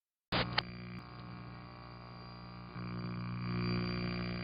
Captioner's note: static buzzes